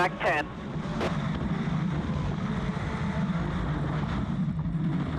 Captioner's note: truck engine revving